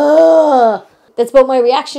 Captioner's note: scoffing voice